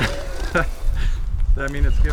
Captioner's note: laughter